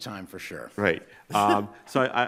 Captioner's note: chuckles